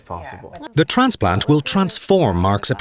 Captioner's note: voiceover